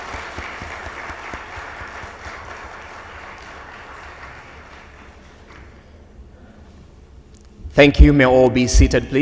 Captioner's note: audience applauds